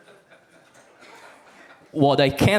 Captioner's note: audience laughs